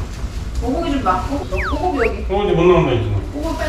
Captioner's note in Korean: 꺄루루